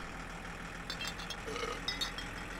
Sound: Belch

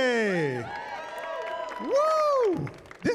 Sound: cheering

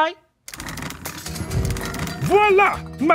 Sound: curtains rattle and thud; soft instrumental music

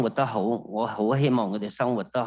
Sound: speaking non-englis

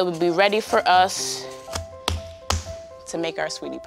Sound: smacking

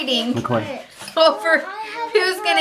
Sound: laughs

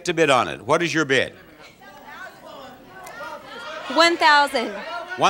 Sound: audience yelling

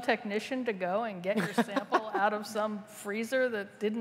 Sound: laughter

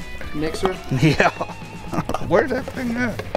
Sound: chuckles

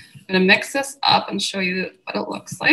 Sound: audio clipping

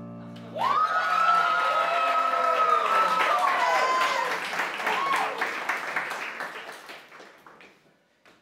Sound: applause

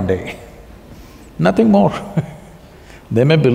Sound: laughs

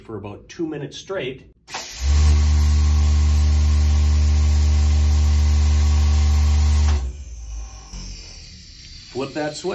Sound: machine humming

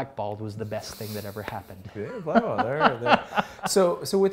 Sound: laughs

